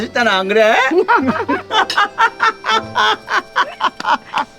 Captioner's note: both laughing